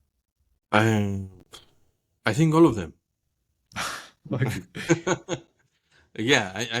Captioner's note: laugh